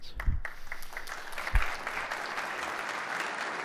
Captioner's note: applause